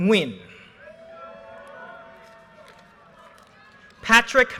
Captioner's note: audience cheers and applause